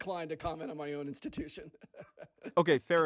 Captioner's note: laughing